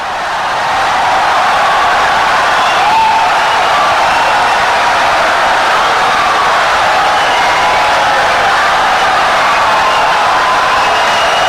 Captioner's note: wild applause and cheering for 17 seconds